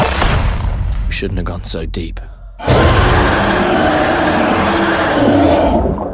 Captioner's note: Reaper roars